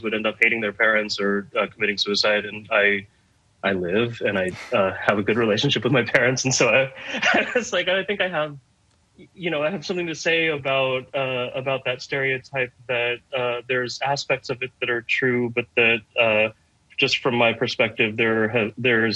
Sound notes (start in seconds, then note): 6.9 laughing